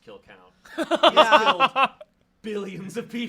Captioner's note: laughs